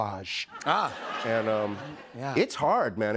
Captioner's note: laughter